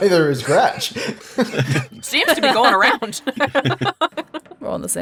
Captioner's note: chuckles